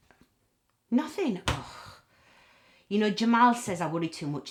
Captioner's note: exhales